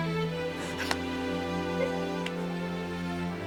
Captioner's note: muffled Sobs